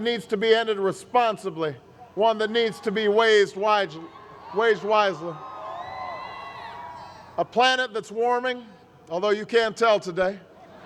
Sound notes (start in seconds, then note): 5.4 crowd cheers